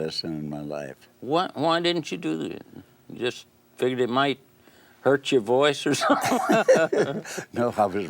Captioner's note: laughs